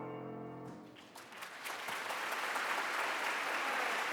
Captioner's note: applause